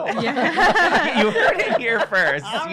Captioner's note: laughter